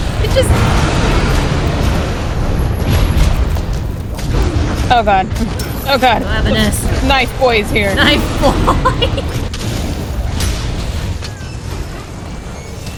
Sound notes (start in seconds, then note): 8.1 laughs